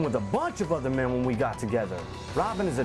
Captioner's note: none